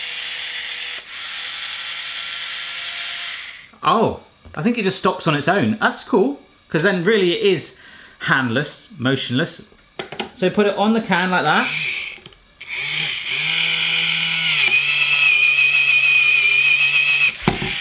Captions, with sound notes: Oh, I think it just stops on its own. That's cool, 'cause then, really, it is handless, motionless. So, put it on the can like that. (whirring)